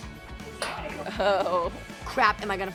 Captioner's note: laughing